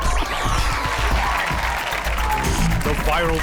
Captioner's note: audience applauds